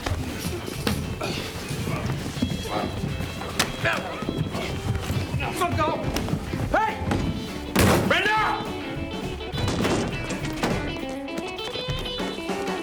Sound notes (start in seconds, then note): 3.5 grunting; 8.6 upbeat rockabilly music